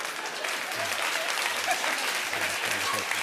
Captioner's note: laughter; applause